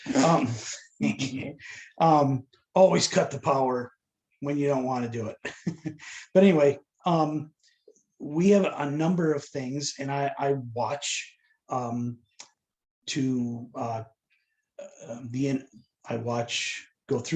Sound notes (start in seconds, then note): 5.4 laughter